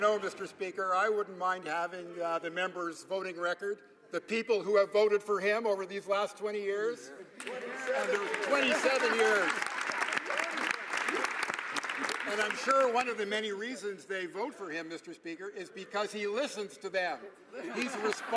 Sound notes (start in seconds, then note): 2.2 some Applause